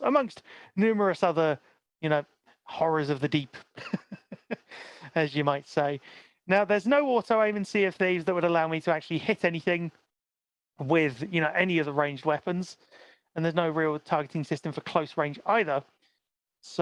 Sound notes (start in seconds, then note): 3.6 laughs